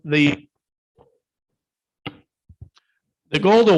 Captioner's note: microphone cuts out